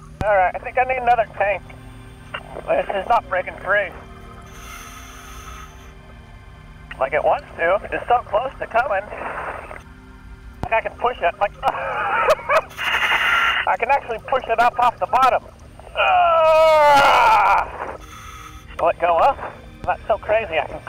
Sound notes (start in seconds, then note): 11.5 laughs; 15.8 groans